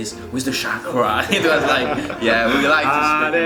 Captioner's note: laughs